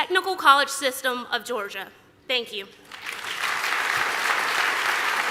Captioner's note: applause